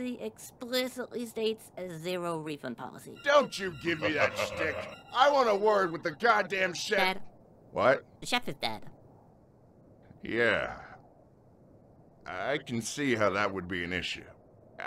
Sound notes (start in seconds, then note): 4.0 evil laugh